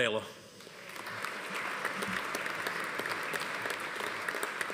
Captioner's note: audience applauding